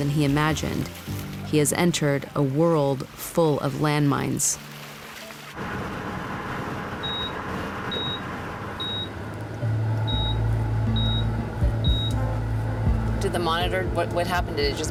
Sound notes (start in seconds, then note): 4.7 monitor beeping